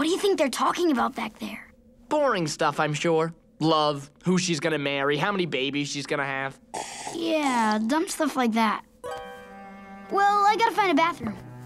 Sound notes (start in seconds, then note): none